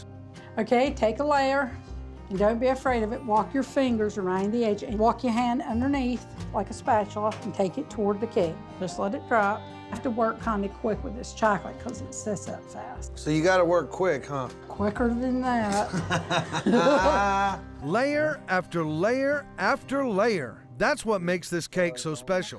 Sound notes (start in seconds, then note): 15.6 laughing